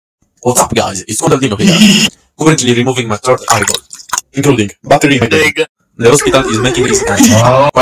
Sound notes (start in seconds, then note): 1.6 Scooby-Doo laugh; 3.5 water drop sound; 6.2 guy having an aneurysm while saying HEHEHEHAWAUUUUGHH